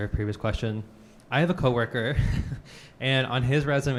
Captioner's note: chuckles